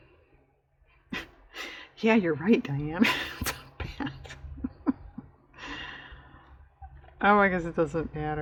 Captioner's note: laughs